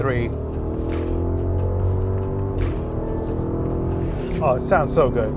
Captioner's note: vehicle engine revving